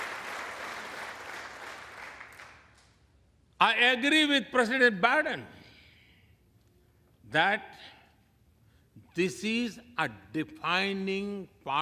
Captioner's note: applause